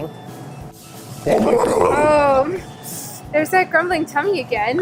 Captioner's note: tummy growling sound